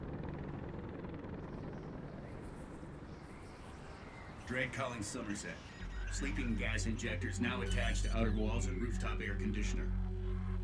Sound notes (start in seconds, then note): 4.4 over comms